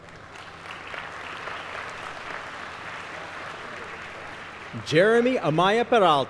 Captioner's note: applause